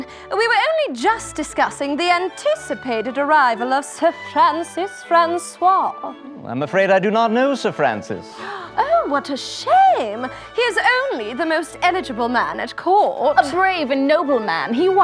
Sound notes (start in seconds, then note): 8.5 gasps